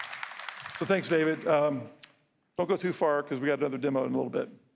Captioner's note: applause